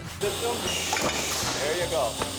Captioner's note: thud; claps